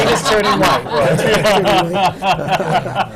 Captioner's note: laughter